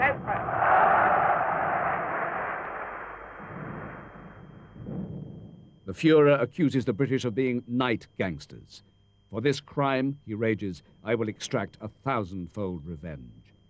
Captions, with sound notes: (crowds cheering) The Führer accuses the British of being night gangsters. For this crime, he rages, I will extract a thousand fold revenge.